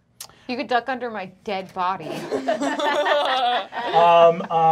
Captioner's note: laughing